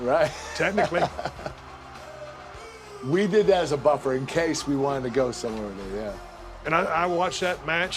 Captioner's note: laugh